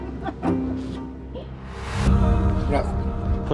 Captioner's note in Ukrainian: сміх